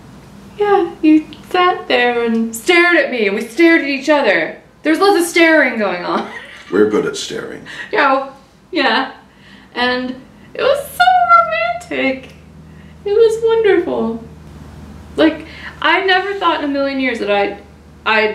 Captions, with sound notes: yeah, you sat there and stared at me and we stared at each other. There was lots of staring going on (laughs). - We're good at staring. - You know, yeah, and, it was so romantic; it was wonderful. Like, I never thought in a million years that I'd,